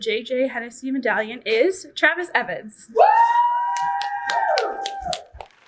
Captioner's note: audience cheers